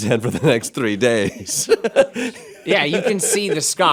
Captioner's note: laughing